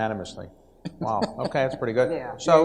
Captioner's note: laughs